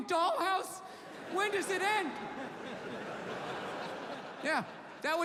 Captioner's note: audience laughing